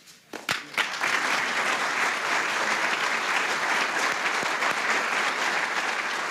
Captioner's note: clapping